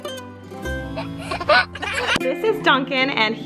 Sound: child laughs

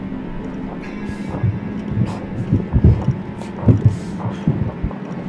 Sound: heartbeat thumping

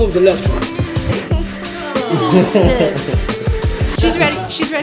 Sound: giggling

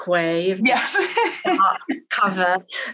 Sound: laughs

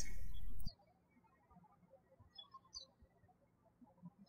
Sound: birds chirping

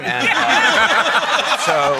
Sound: laughter

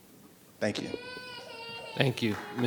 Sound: child crying

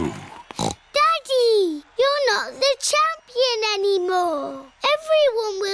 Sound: snorts

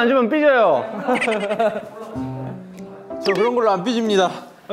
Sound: kekekeke

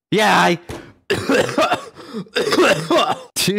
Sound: coughing up a lung

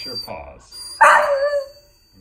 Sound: Oliver barks

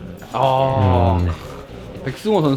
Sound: impressed

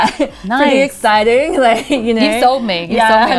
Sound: laughing

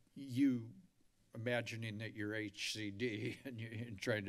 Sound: giggles

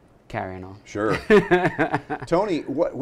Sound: laughs

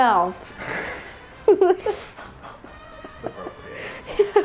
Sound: laughing

